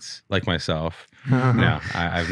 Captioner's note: chuckles